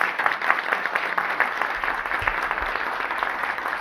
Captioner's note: applause